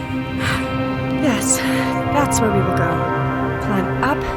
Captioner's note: climbing breath